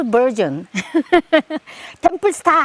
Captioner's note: laughs